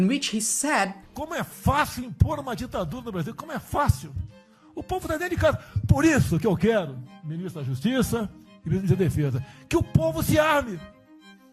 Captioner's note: speaking portuguese